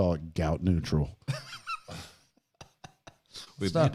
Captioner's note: laughing